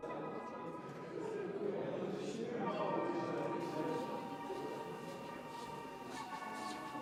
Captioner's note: gente hablando; ominosa de la música electrónica